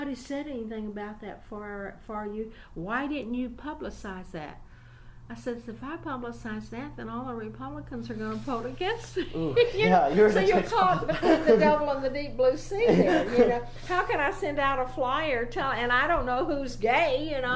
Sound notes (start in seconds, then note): 10.3 laughs; 12.8 laughing